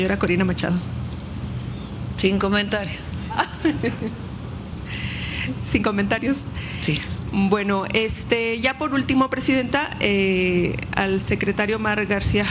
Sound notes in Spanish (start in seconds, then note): 3.2 risas